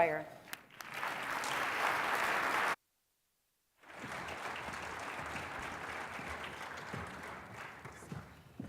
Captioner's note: applause